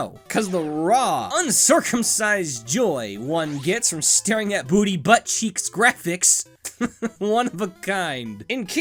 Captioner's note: chuckles